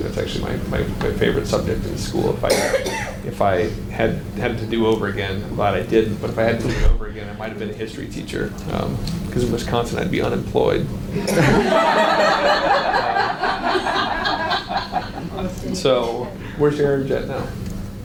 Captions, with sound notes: That's actually my favorite subject in school. If I had it to do over again, I'm glad I didn't, but if I had to do over again, I might have been a history teacher. Because in Wisconsin I'd be unemployed. (audience laughs) So where's your urge at now?